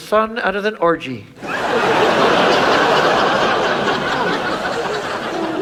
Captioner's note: audience laughs